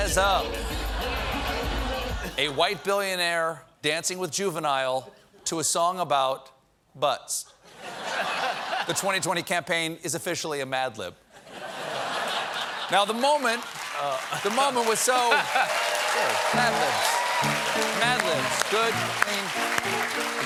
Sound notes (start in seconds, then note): 7.6 laughter; 12.8 applause; 15.0 laughter; 20.2 cheers and applause; 20.2 piano riff